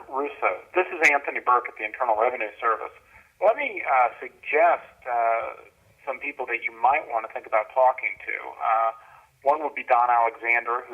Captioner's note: on message phone machine